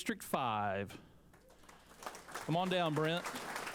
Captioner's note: applause